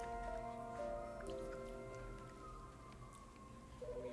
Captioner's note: siren wails in distance; office telephone ringing